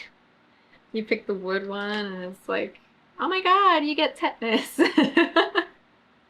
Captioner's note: laughs